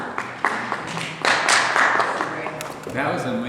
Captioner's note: applause